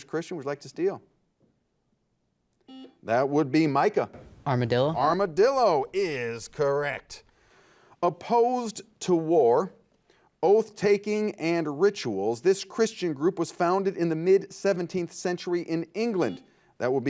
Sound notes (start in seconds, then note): 2.6 buzzer beeping; 16.2 buzzer beeping